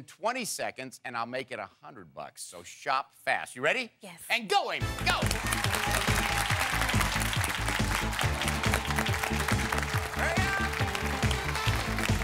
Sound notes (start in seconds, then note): 7.1 applause